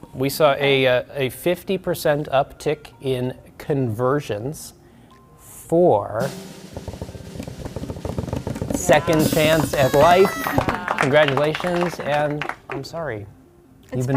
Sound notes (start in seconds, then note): 6.2 drumroll music; 8.8 party horn blowing